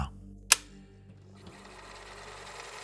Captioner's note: machine clicks; machine whirring